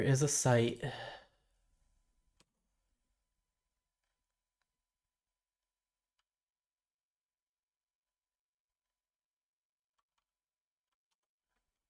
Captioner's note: silence